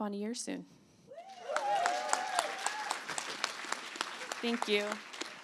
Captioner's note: applause